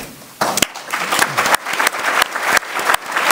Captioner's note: applause